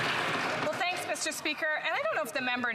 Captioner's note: applause